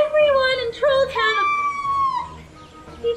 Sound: dj suki yelling for help

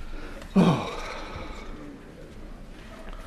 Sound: sigh

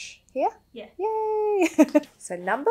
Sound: laughs

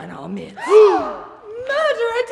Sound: gasps

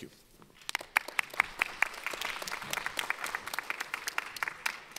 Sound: audience applauding

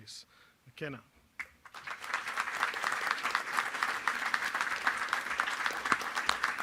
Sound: applause

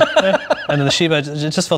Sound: laughing

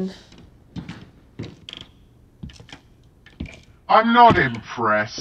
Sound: footsteps plodding

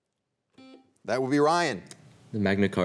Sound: buzzer beeps once

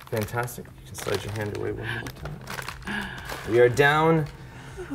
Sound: laughter

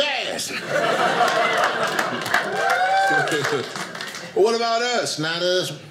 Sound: audience laughing; audience applauding

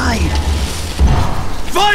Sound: metal gate creaking

